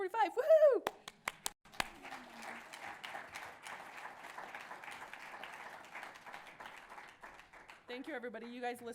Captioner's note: applause